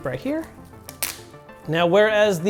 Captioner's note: tape ripping